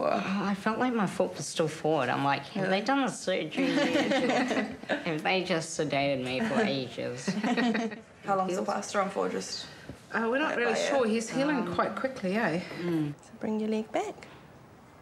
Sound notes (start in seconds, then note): 3.6 all laugh